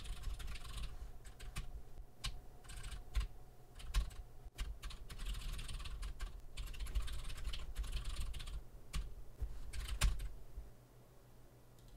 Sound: typing sounds

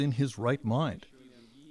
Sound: speaking Foreign Language

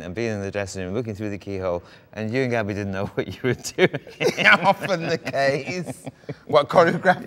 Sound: both laugh

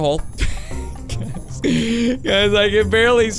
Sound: laughing

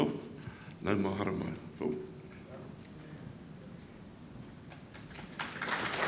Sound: speaks in a foreign language; audience applauding

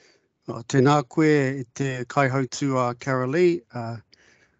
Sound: speaks in te reo Māori

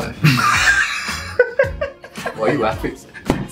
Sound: laughing

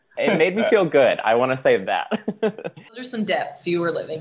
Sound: laughing

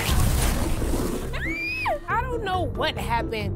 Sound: crash; screams

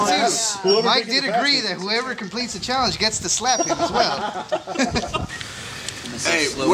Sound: crowd laughs

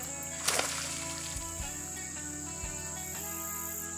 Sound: fish splashes

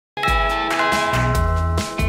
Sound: ding-dong -- Door bell ring

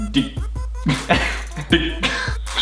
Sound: laughs

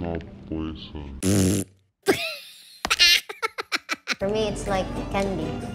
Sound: blows raspberry and laughs

